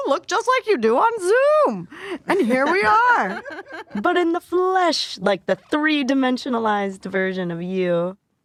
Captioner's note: laughter